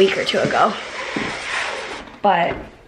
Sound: shades closing

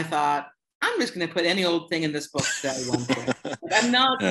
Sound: laughter

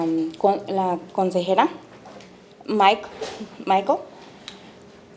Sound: speaking Spanish

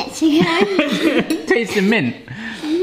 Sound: laughs

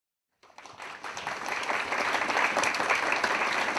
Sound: audience claps

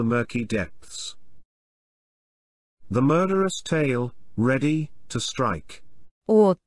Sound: none

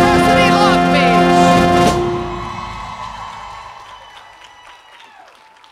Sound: cheers and applause

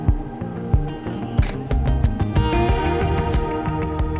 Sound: shutter closes

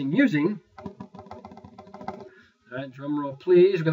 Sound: imitating drum roll

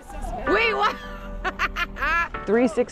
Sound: laughing

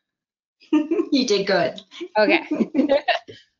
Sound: laughs

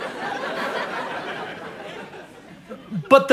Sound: audience laughter

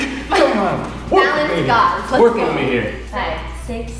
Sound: speaks faintly

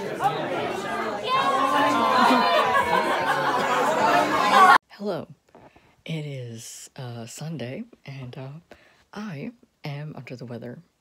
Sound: people cheering

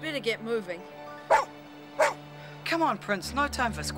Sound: barking

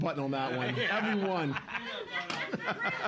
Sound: laughing; loudly laughing

